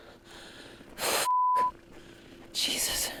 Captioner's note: beep